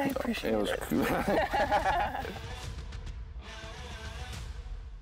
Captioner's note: laugh